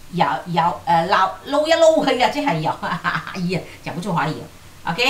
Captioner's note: Cantonese